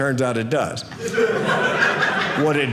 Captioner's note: audience laughing